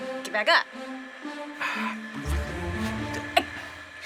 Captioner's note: sighs